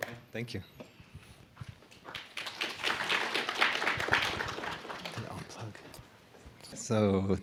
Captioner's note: applause